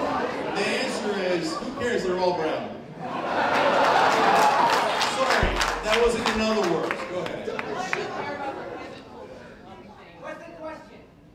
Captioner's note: laughter